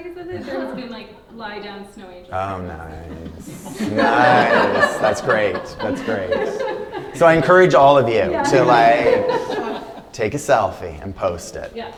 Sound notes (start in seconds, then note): 2.9 laughter